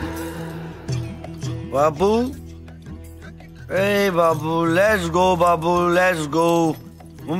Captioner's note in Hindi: नशे में